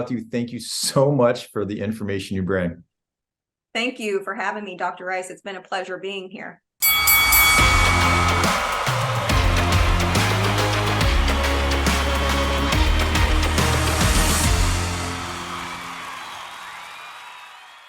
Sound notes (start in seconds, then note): 6.8 bell ringing; 8.2 upbeat music; 14.9 crowd cheering